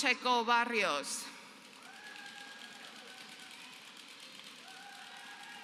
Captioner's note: applause